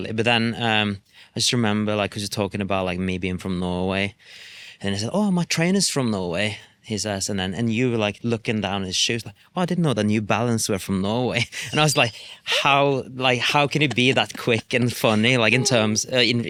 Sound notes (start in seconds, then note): 13.4 laughs